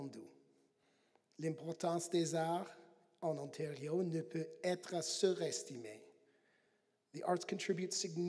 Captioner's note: speaking French